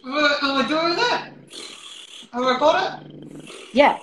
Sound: buzzing sound

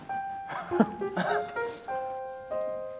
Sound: A few laughs of disbelief

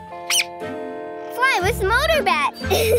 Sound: squeaks

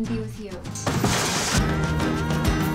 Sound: crash; moderate tempo music playing

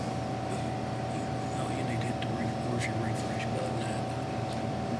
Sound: faintly speaking

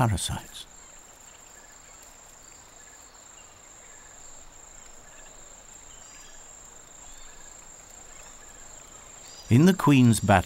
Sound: birds chirping

